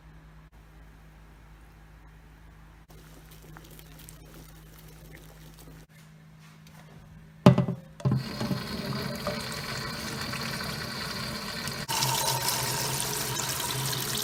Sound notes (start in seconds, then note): 0.8 boiling